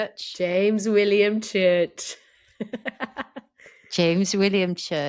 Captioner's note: laughs